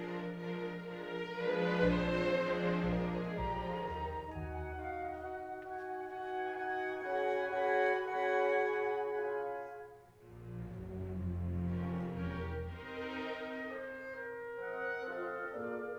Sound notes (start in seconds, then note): none